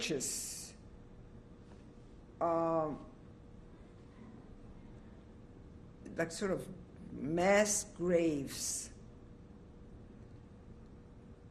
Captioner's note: pauses for 6 seconds